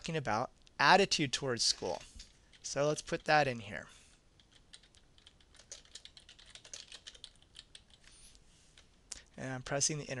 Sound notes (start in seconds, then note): 4.4 typing Strokes